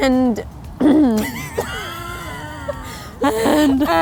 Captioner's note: laughing